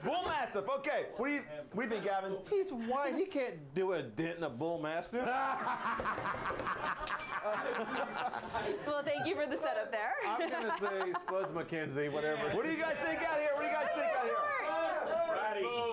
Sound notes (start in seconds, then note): 7.1 bell rings; 8.0 laughter